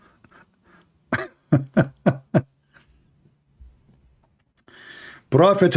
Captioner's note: Ketawa